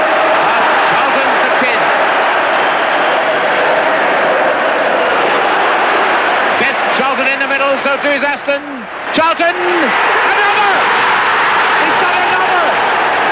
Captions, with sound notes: Charlton to Kidd. Best, Charlton in the middle, so too is Aston. Charlton... And another! [crowd roaring] He's got another.